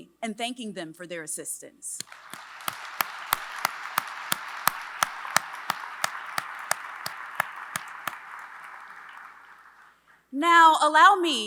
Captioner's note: applause